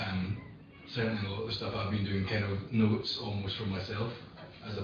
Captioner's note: audio distorts